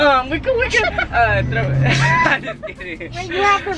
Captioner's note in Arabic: يضحك